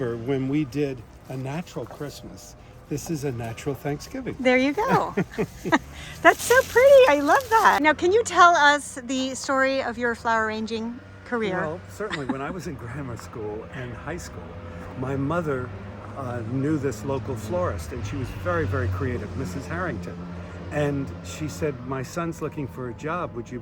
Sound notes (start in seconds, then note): 4.7 giggles; 4.8 laughing; 11.9 laughing